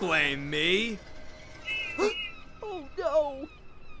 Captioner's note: whiff whistles